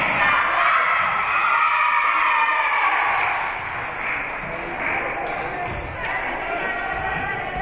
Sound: team and spectators cheering and applauding; spectators shouting encouragements

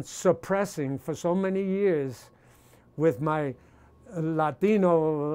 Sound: none

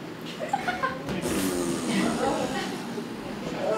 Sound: more farting; audience screams; moan

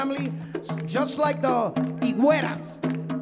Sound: speaking in Spanish

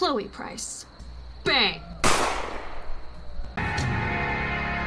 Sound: gun shot

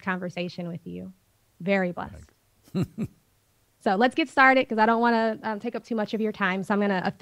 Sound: Sadhguru laughs

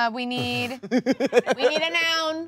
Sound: laughing

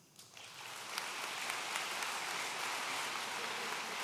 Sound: audience applauds

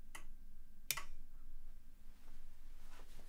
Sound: lamp clicks

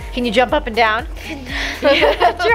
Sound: laughs

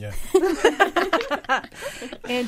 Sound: all laughing

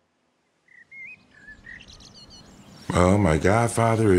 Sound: birds chirping

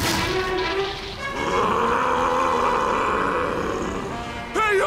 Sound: roaring

